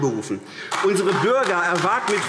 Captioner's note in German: Beifall AfD